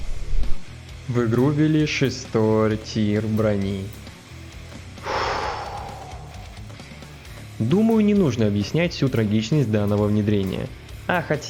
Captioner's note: sigh